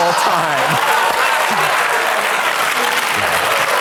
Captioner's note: audience laughs; audience applauds